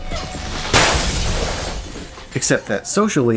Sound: crash

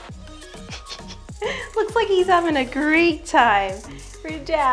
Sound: chuckles

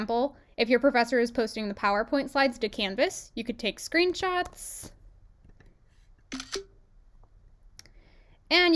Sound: screenshot sound

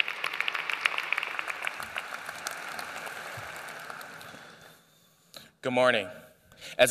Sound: applause

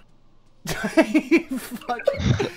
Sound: laughing

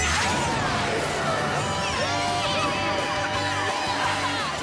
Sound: cheering

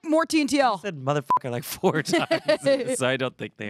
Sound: beep

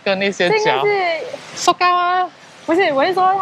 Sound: in Taiwan language

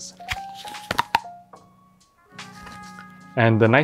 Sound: teeth crunching

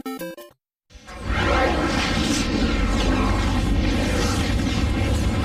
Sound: dramatic twister and helicopter sounds

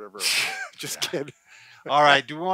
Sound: scoffs

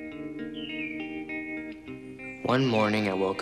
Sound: birds chirping

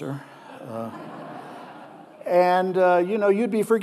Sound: audience laughing

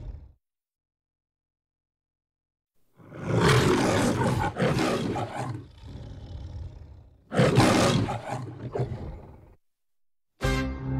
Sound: lion roars

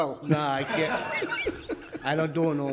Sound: laughs

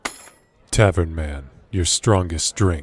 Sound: gold coins hitting against each other

